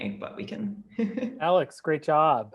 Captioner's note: laughs